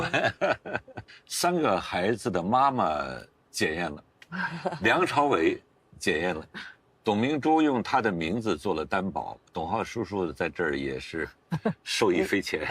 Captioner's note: laughs